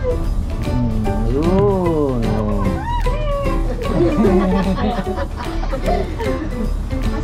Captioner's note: laugh